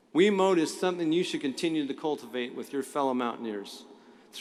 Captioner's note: none